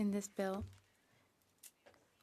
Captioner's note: speaking French